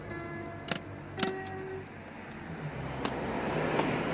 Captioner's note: briefcase opening